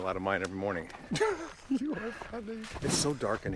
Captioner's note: laughs